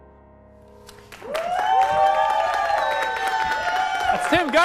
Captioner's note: cheers + applause